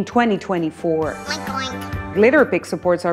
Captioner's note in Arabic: تقليد لصوت الخنزير